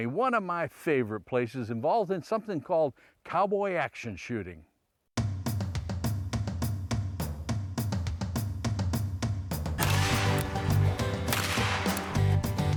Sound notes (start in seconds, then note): 5.3 gun shots; 5.3 intense music